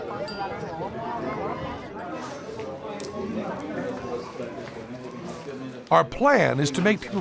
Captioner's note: chatter